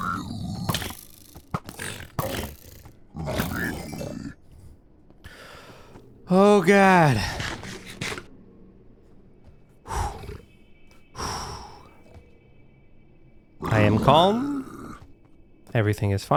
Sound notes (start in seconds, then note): 8.7 exhales